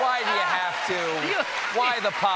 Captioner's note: cheers and applause